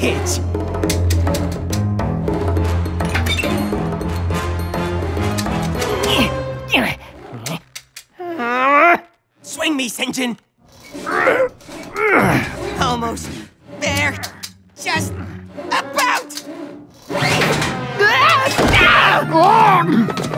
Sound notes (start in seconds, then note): 17.9 yells